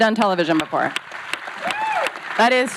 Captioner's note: audience clapping; man howls